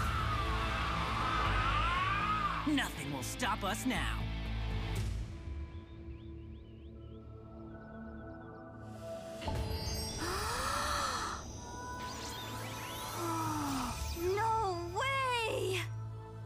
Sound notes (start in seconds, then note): 0.2 roaring; 5.5 birds chirping; 10.1 gasping